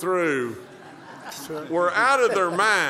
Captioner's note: laughter